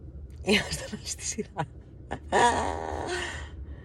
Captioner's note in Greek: γέλια